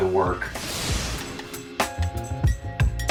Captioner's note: swoosh